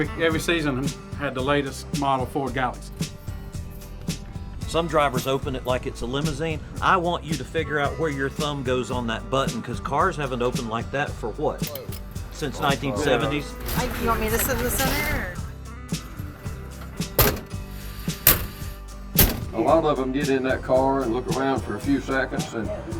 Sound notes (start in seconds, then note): 16.0 door shutting